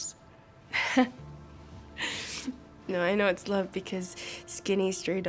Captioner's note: laughs